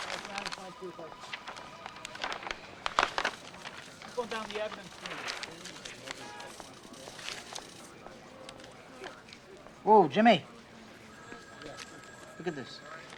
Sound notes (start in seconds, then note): 0.1 officers chattering; 0.1 telephones ringing; 6.6 officers chattering; 6.6 telephones ringing